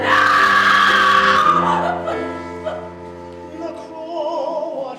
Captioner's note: woman screams